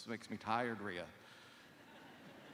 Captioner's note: laughter